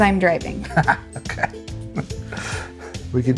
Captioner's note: laughs